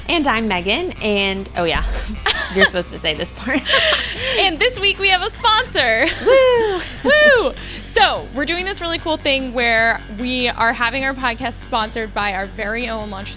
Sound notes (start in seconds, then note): 1.6 laughing